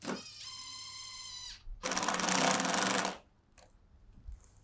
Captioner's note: drill spins